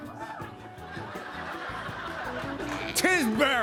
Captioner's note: laughter